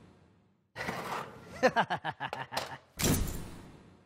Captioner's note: chuckles